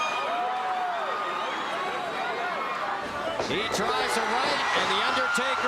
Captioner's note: applause